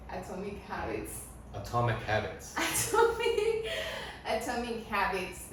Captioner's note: Risas